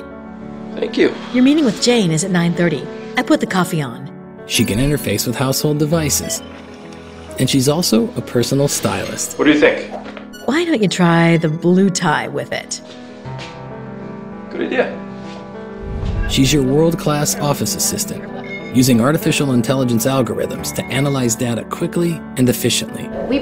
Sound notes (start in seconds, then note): 6.0 coffee maker beeps